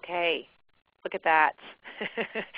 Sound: silence

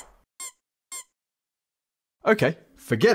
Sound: squeaks

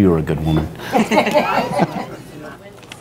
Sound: laughing

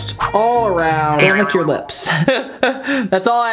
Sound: laughs

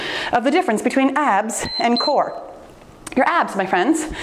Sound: timer beeps

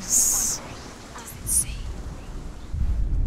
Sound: whispering; whisper

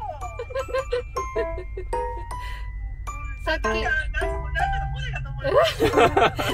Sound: laughs

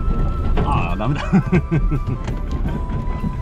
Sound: laughs

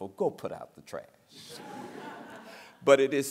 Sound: laughter

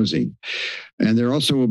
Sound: inhales

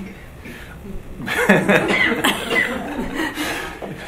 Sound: laughs

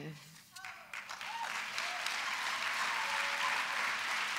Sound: applause

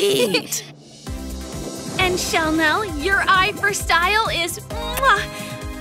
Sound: kisses

